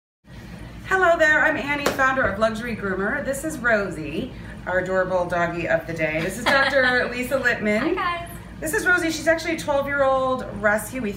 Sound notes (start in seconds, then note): 6.2 laughs